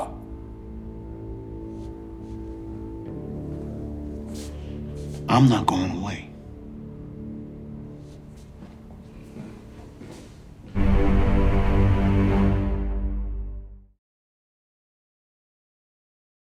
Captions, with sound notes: (deep tense music continues) (feet shuffling) - I'm not goin' away. (footsteps thudding) (deep string music)